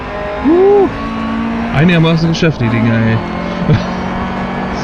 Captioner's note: laughs